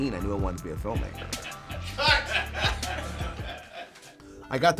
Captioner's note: laughing